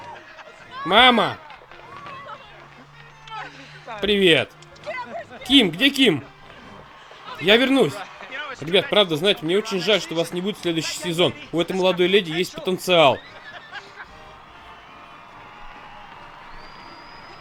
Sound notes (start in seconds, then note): 13.3 laughs